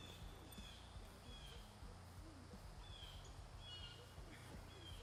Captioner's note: birds chirping